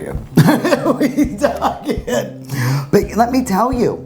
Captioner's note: laughing